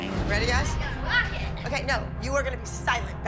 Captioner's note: exclaims